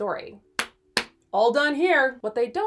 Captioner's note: hands clapping